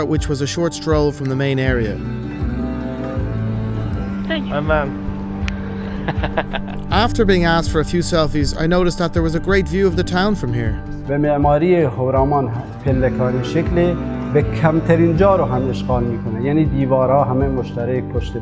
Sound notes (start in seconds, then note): 2.7 cool music; 5.6 laughing